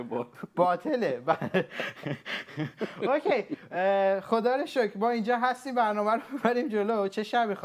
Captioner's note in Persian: خنده